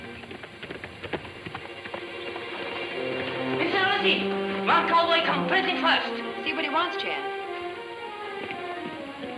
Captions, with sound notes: (hooves thudding) (dramatic music) - Miss Lucy, one cowboy come pretty fast. - See what he wants, Chan.